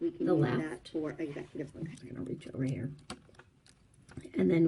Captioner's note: other video playing in the background